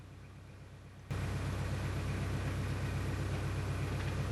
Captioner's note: diesel engine sound